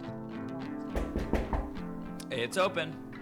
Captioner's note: knocking